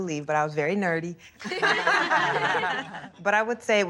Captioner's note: laughing